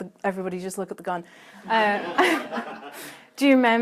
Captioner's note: laughter